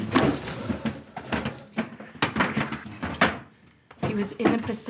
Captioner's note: chair clatters